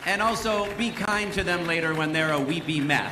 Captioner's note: cheers and applause